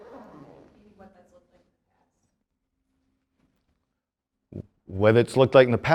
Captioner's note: student murmuring